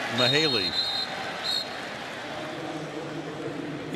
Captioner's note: whistle